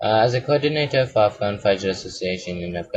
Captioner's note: Arabic